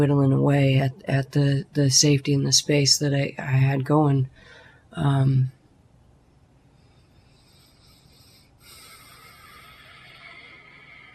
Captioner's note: deep breath